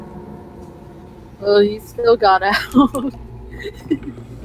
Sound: laughs

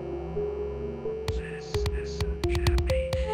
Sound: slow Whisper

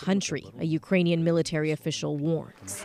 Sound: speaking Foreign Language

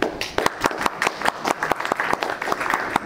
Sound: clapping

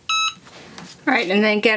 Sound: machine beeps

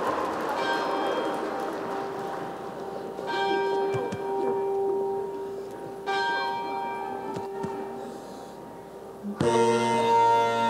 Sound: applause and cheering; bell rings 3x; bagpipe music

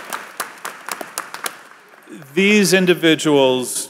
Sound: applause

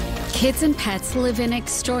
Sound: none

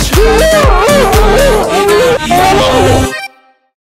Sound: screams

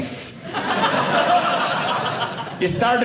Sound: audience laughing

